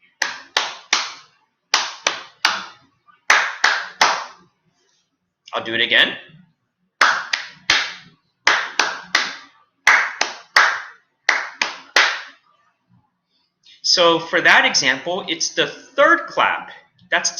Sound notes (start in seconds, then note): 0.2 clap clap clap; 6.9 clap clap clap; 9.8 clap clap clap